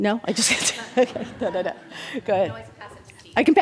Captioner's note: laughs